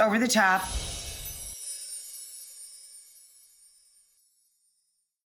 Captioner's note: chimes tinkling